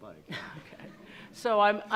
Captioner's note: attendees laughing